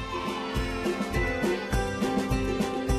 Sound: kids shouting; light bouncy music

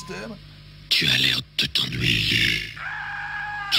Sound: screams

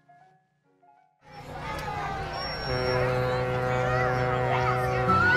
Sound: cheering, horn blasts

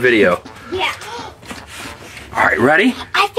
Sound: gasps

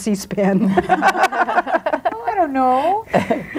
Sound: group laughs

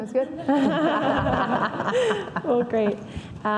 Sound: laughing

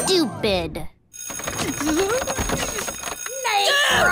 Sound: bell ringing

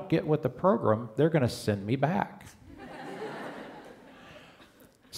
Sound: laughter

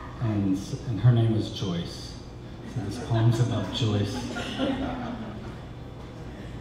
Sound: audience laughter

